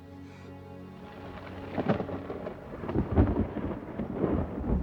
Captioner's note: thunder rumbling